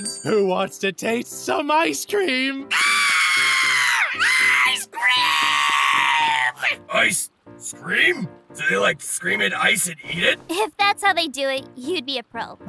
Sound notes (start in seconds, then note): 2.6 unearthly scream